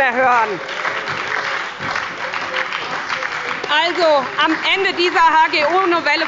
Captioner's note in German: Beifall bei der SPD und der LINKEN